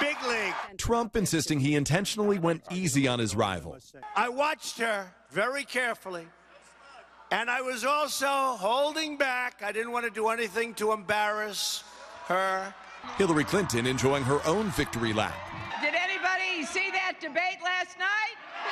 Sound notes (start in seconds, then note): 16.3 cheers